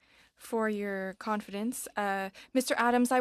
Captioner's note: speaking French